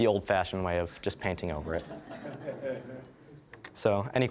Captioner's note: audience laughing